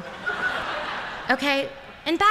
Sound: laughter

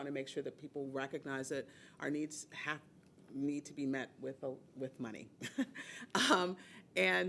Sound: laughing

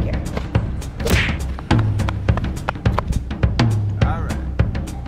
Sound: drum beat plays; running footsteps

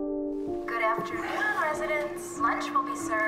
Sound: intercom speaker

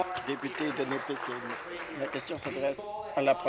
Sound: applause

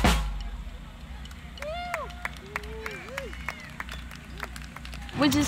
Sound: audience clapping and cheering

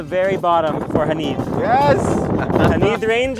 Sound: laughs

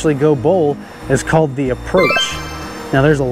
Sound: text tinkling

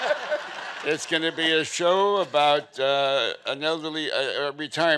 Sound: all laughing

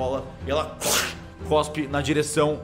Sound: spits

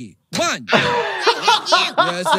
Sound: doctor laughing

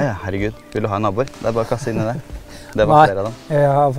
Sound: giggle

